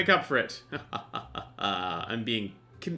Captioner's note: evil laugh